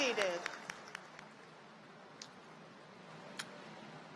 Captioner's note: cheers and applause